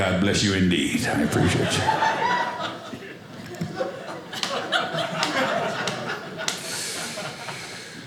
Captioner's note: audience laughing